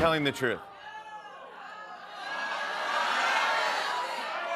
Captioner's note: audience shouting